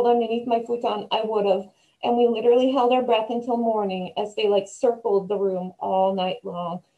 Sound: none

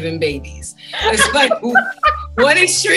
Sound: laughs

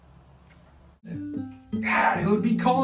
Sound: cell phone ringing

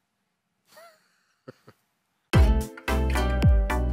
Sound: laugh

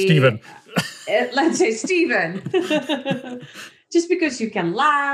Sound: laughs

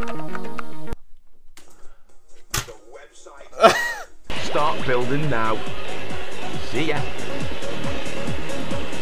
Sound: laugh

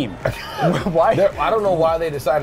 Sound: laughs

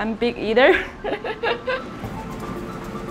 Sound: laughs

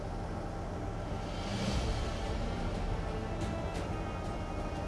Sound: none

